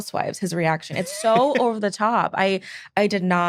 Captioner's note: laughing